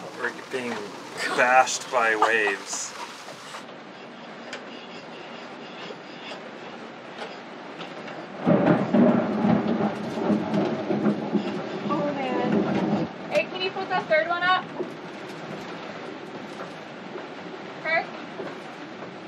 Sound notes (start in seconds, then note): 3.8 laughs; 8.2 thundering